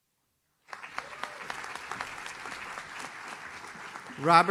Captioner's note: audience claps